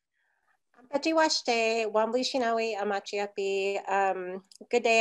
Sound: speaking in foreign language

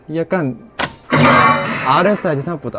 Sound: shooting

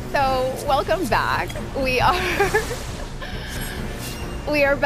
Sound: laughing

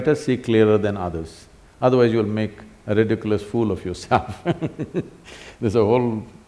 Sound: laughs

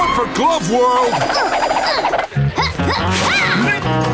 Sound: grunting

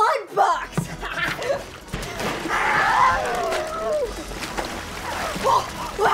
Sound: laughter and squooshing

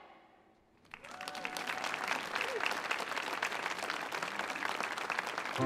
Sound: audience applauding

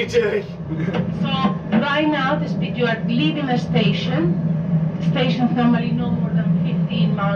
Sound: on speaker

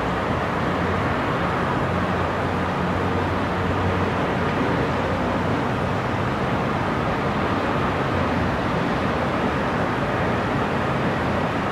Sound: sound of distant cars and city noises

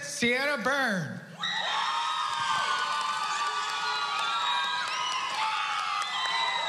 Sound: cheering

